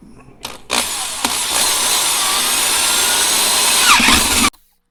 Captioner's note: drilling